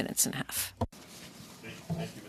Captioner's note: speaking French